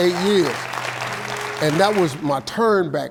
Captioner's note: audience applauding